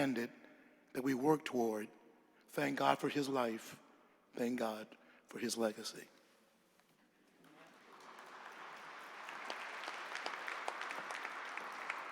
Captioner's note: applause